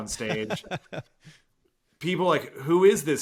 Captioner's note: laughing